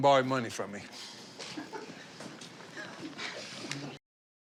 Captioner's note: chuckling